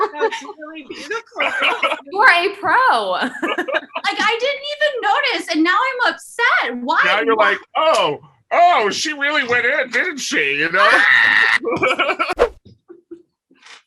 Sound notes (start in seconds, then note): 0.0 laughter; 10.8 screaming; 10.8 laughter